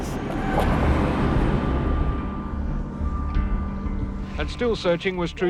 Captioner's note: traffic whooshing; suspenseful music